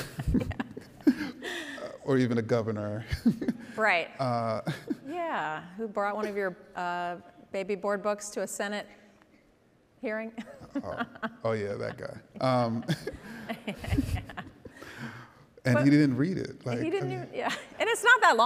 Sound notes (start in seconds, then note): 0.0 laughs; 10.4 laughs; 13.7 laughing